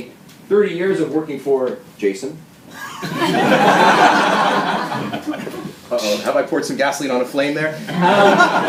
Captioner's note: laughter